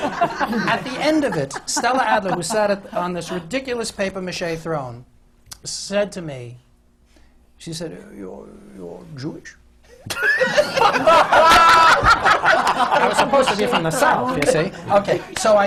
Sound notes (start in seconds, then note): 0.0 laughter; 6.9 does her voice; 9.9 laughter